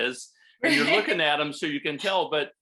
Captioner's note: laughter